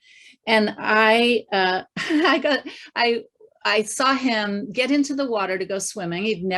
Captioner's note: chuckling